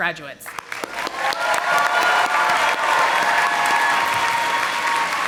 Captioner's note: audience applauding